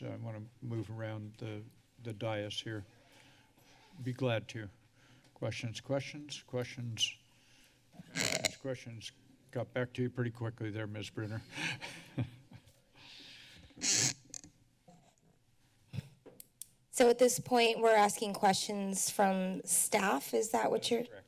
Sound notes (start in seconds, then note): 8.1 mic sounds; 11.6 chuckles; 13.8 mic sounds